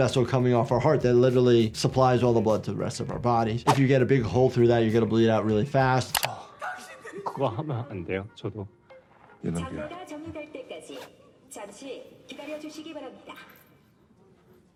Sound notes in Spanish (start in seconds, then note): 6.7 El jugador habla en coreano; 9.6 Thanos habla en coreano; 9.6 locutor hablando en coreano